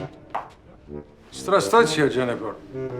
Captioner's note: speaking in a foreign language